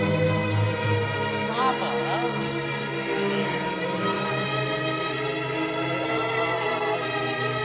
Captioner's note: speaking foreign language over music playing